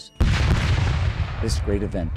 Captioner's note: cannon fire